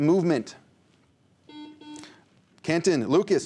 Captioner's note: buzzer